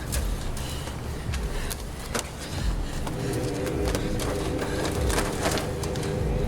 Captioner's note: ominous music; breathes heavily